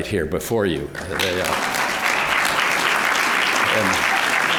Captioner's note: applause